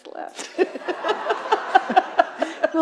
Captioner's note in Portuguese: risos da plateia